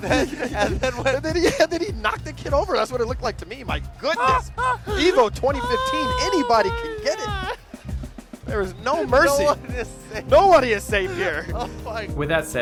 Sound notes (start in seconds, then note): 4.0 laughing